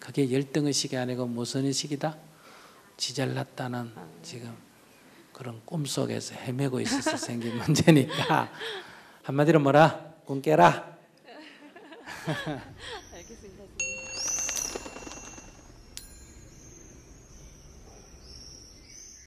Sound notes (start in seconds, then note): 6.8 inquirer laughs; 11.2 laughs